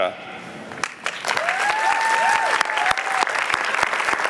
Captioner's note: applause